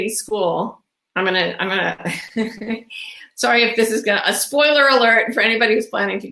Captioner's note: laughs